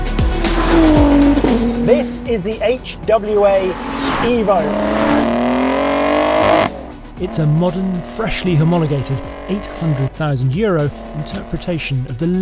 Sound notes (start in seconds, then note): 0.0 upbeat electronic music continues; 1.3 engine revving; 5.3 engine continues revving